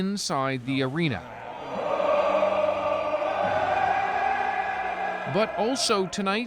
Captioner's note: cheering, Singing